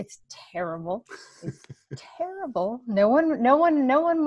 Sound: chuckles

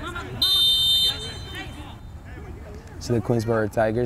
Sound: whistle blows

